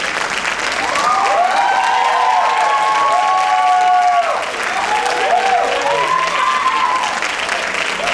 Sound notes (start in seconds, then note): 0.5 cheering